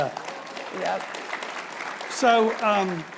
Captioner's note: audience applauding